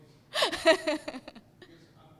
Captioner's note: laugh